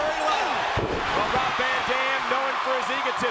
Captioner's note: mat thumping